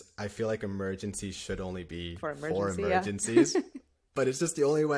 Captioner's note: laughter